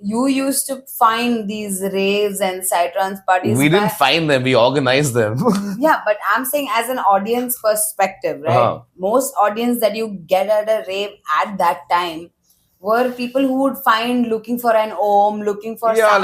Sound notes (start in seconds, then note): 3.5 laughs